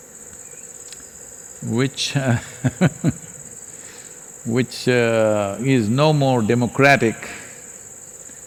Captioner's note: laughs